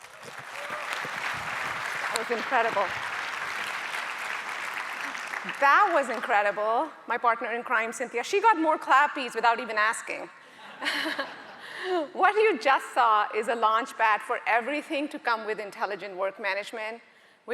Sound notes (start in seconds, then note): 0.0 audience applauding; 10.8 audience chuckling